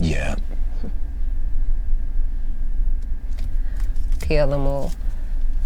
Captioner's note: car engine revving